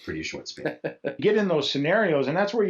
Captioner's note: laughs